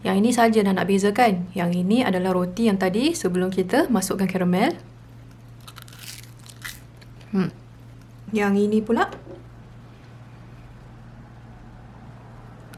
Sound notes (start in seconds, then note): 5.3 shy crunch